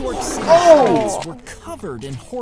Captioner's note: both gasping